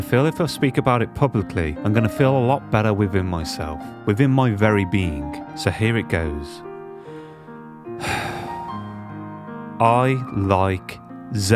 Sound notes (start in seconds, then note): 8.0 deep exhale